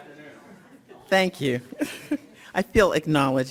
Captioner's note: laughs